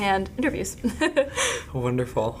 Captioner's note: laughing